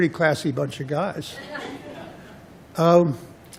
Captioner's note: laughter